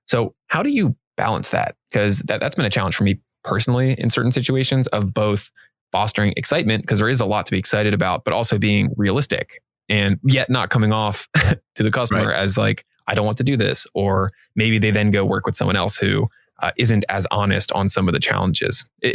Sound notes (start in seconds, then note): 11.1 chuckling